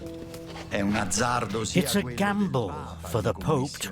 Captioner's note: in Italian